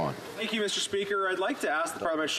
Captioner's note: some Applause